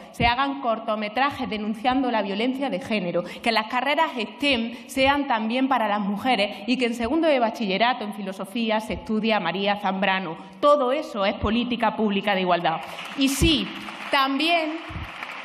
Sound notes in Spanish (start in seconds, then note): 12.8 Aplausos